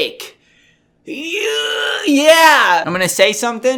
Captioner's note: grunting noise